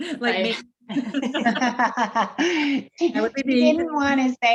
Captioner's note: group laughs